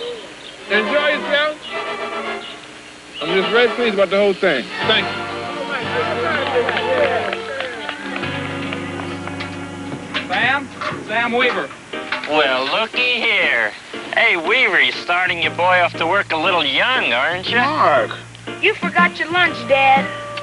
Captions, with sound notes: Enjoy yourselves. I'm just really pleased about the whole thing. Thank you. [cheering and applause] Sam! Sam Weaver. Well looky here. Hey Weaver, you starting your boy off to work a little young, aren't ya? --Mark! --You forgot your lunch, Dad.